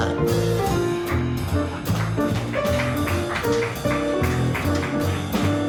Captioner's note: audience applauds; playful piano music continues